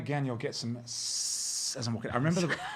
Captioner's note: hissing